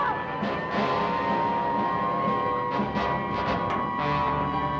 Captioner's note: sirens blaring